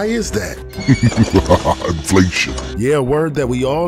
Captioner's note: laughing